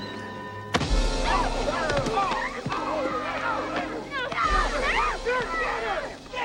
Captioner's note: laughs; men shouting; women shrieking